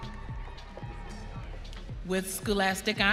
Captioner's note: audience cheering